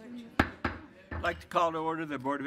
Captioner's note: pounds gavel